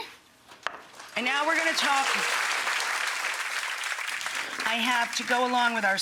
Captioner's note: audience clapping